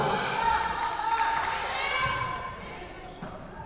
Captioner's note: whistle blowing